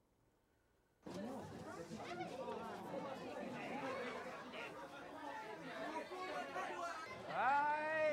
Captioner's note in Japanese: 生徒たちの話し声